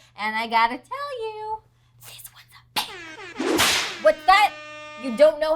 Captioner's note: horns blaring